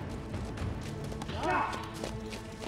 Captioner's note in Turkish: At nalı sesi